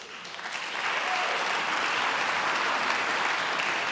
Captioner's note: applauding